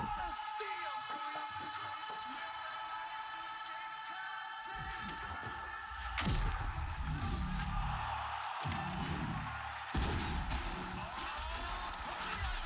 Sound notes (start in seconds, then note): 6.3 gun firing; 9.9 explosion booming